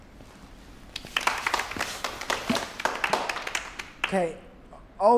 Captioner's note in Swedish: klappar